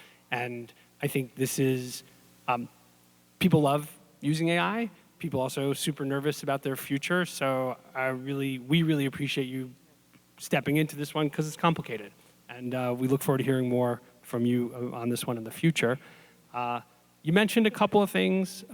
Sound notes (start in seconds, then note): none